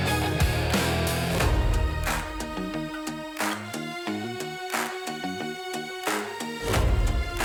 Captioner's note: sound of Metal Vibrating